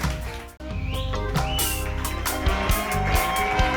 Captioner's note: audience whistles and cheers; upbeat music